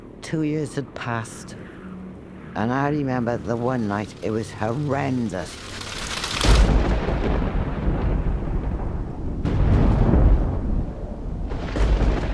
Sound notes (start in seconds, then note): 6.3 thunder crashes